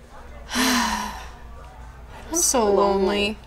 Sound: both sigh

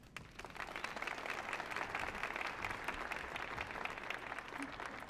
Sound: audience applauding

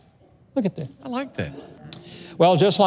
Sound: audience murmurs

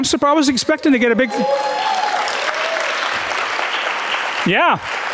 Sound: audience cheering and clapping

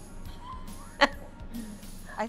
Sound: chuckles

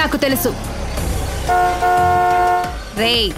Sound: horn blares

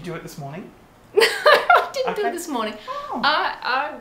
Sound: laughs

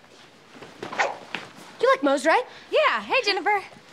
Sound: none

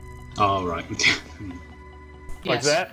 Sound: scoffs

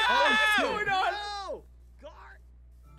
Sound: overlapping shouting; silence

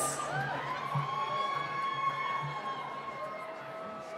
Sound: cheering

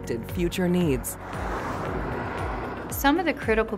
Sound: car passing

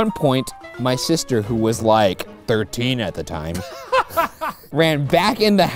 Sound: laughter

